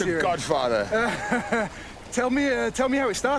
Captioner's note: laughs